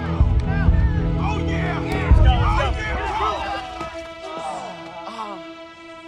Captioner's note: tense music; slow heartbeat